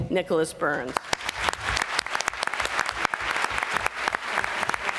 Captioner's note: applause